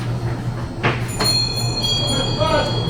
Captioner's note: bell ringing